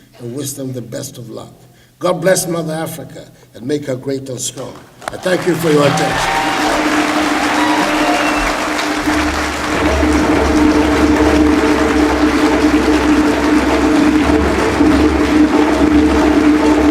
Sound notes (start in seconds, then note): 5.8 applause; 11.8 drumming